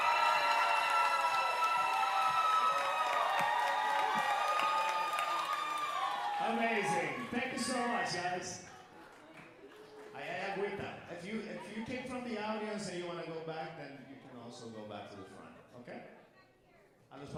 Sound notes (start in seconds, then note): 0.1 audience cheering and applauding; 10.1 speaker speaking Spanish; 17.1 speaker speaking Spanish